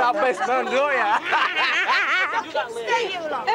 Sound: Sandra laughs

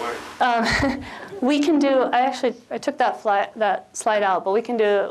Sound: chuckles

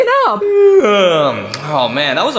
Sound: Mario yawning

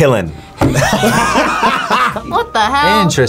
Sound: both laugh

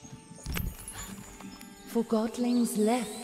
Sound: sparkle, Anne gasps

